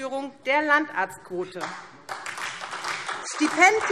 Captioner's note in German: Beifall SPD